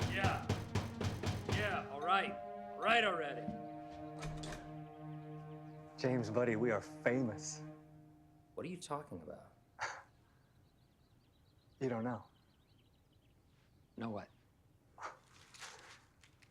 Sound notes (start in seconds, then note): 9.8 guffaws